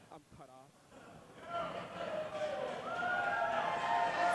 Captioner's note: cheering